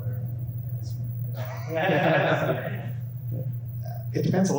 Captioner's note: laughter